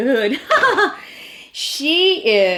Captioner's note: laughs